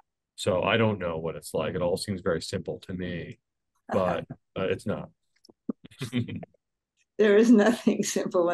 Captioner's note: laughs